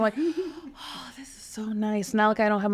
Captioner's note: person giggling